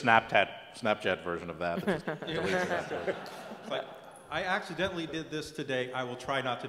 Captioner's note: laugh